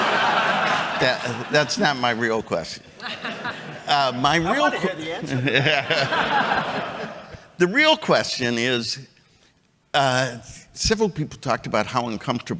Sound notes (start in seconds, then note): 4.4 chuckles